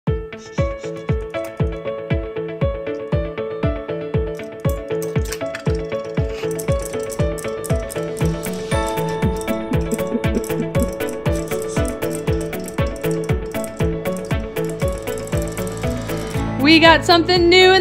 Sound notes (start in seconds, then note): 0.0 light upbeat music; 5.2 toy splashes; 6.0 laughs; 6.0 toys clicking